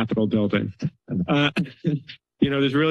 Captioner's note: laughter